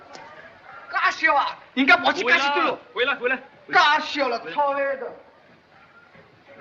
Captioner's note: speak chinese